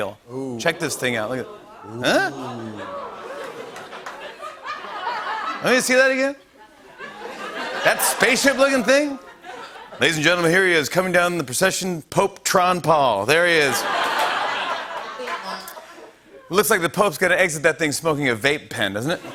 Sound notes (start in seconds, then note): 3.8 laughter; 6.9 laughter; 13.6 laughter